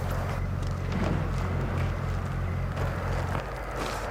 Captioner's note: insects chirping